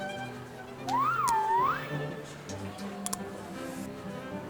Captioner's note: nom nom